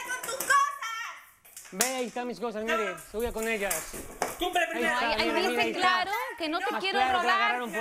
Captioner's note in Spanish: Golpes